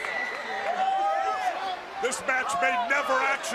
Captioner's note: crowd cheering